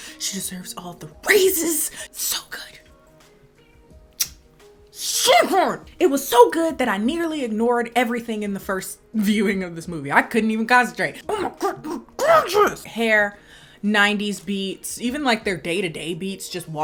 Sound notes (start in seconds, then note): 4.1 kissing